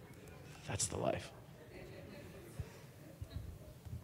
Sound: audience laughing

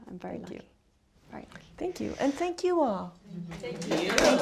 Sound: applause

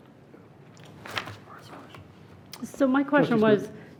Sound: man whispering

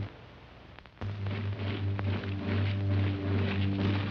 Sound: splash

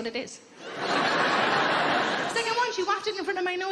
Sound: audience laughing

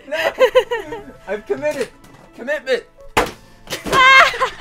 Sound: laughing

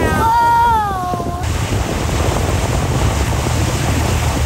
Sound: wind blowing

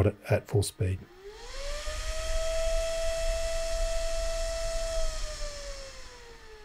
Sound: loud fan whirring becoming quieter

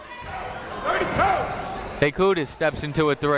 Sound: people shouting in the crowd

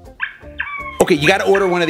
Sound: squeaking noises

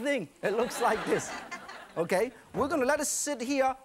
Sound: audience laughs

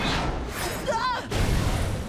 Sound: screaming

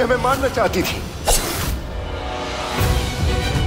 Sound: sword swooshing

